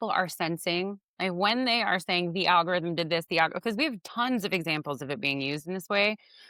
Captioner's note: none